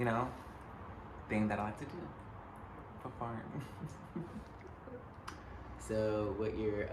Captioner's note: laughs